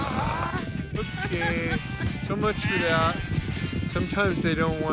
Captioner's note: laughing